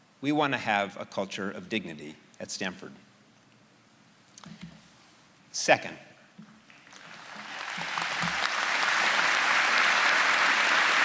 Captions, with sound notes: We wanna have a culture of dignity at Stanford. Second- (audience applauding)